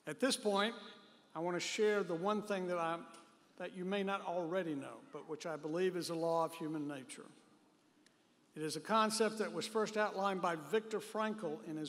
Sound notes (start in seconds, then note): none